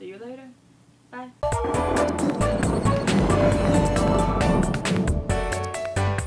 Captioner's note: playful music; thunder